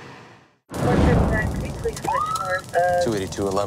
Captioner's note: radadio chahatter